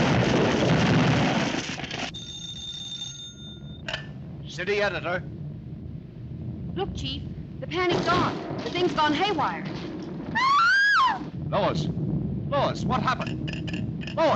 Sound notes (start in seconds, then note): 2.1 phone ringing; 10.3 Lois screams